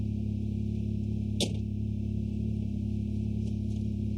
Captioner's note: door opens and closes